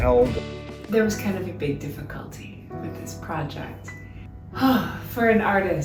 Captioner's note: sigh